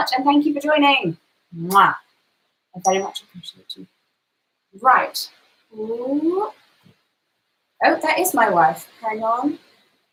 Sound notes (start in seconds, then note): 1.6 lips smacking; 4.1 cellphone chimes